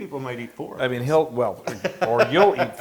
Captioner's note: laugh